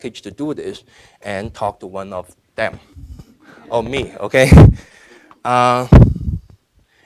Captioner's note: laughing